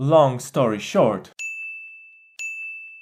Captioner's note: ding